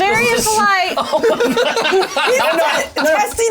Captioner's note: all laugh